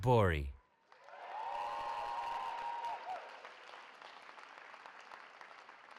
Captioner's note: cheering